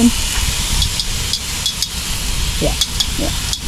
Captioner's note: clicks tongs